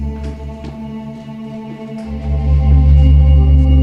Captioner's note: object rustling